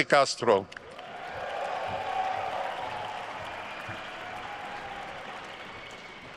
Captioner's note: attendees cheering and applauding